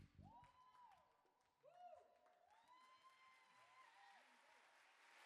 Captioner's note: audience applaud